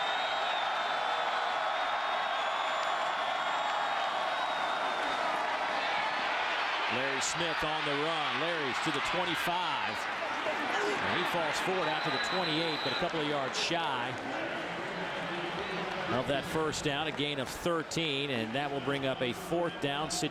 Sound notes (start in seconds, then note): 1.6 crowd noise